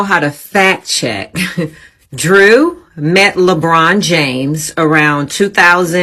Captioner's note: chuckles